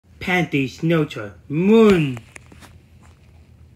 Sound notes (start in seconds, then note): 3.3 Nederlands